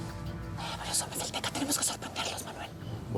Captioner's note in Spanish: murmurando